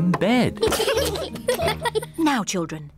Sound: both giggle

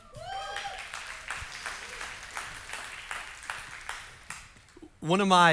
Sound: congregation cheering and applauding

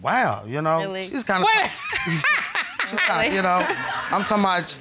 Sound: laughs

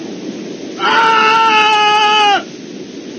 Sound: screams

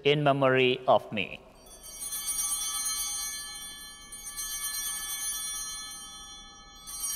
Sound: chimes ringing

